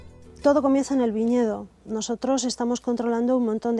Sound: speaking spanish

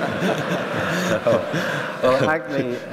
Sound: laughter

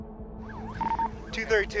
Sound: radio beeps

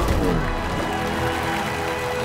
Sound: cheering

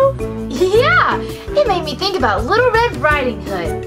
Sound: voiceover

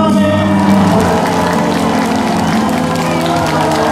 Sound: the audience responds with cheers

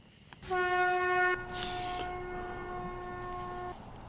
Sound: conch shell blows

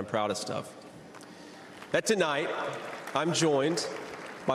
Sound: applause

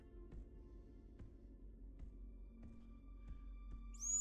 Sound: whistles blows

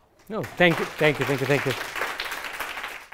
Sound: applause

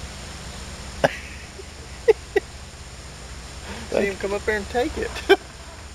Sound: chuckling

